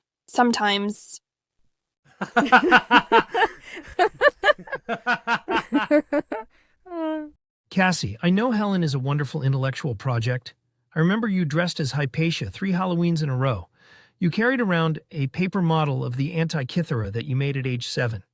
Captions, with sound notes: Sometimes... [both laugh] Cassie, I know HELEN is a wonderful intellectual project. I remember you dressed as Hypatia three Halloweens in a row. You carried around a paper model of the Antikythera that you made at age seven.